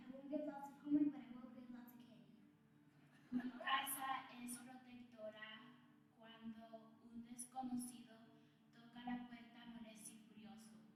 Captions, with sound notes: I won't give lots of homework, but I will give lots of candy. (audience laughs) (child speaking Spanish)